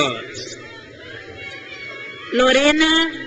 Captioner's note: crowd cheers